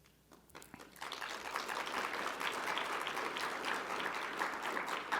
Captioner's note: audience applauding